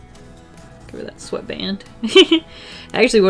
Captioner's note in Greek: Γέλια